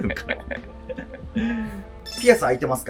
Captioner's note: laughing